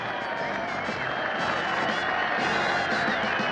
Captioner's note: crowd applauding